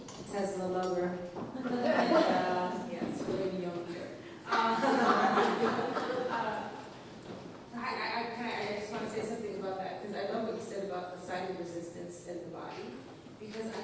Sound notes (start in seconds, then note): 1.8 laughs